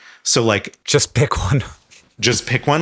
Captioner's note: chuckles